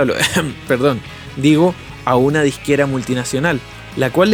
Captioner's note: ahem